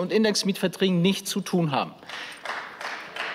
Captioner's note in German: Beifall